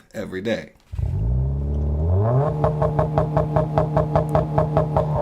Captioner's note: engine roaring